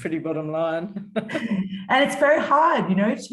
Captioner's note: chuckles